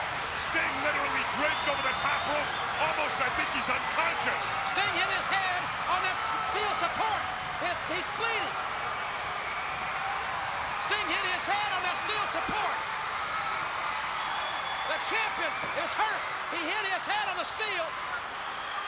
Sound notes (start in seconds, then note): 9.5 crowd cheering